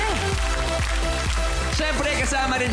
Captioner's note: applause